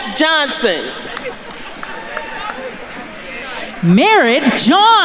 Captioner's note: attendees chattering